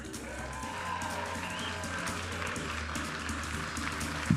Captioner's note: audience applauding and cheering; vibrant music